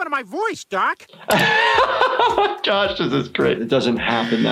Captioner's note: laughs